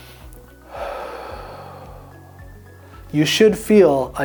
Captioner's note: inhaling; exhaling